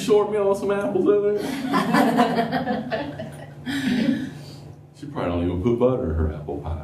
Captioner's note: laughter